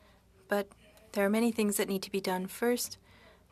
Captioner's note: speaking French